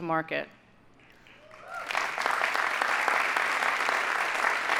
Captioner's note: audience applauding